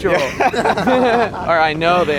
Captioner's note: both laugh